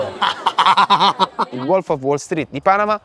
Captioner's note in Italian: risata dopo aver preso il 2%